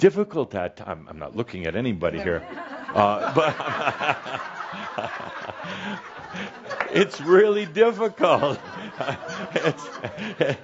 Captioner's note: laughter